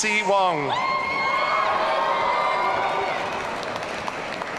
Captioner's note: audience cheering